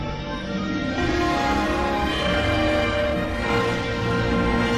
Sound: remastered chime plays

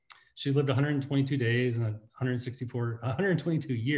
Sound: laughs

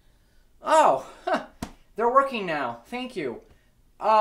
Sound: laughs

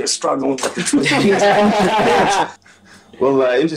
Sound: laughter covering speaker

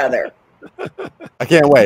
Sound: chuckles

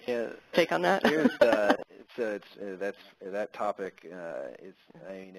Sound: laugh

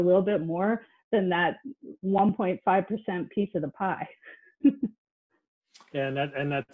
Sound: laughs

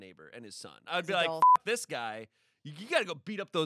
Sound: beep

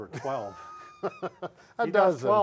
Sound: laughter

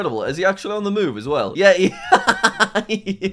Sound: laughs

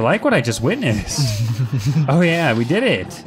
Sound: giggles

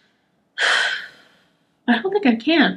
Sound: sighs

